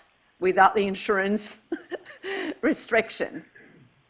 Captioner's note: laughs